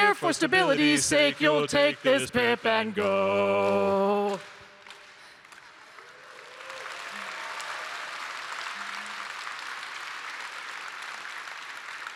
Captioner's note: rhythmic clapping; cheering